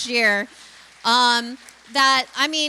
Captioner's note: applause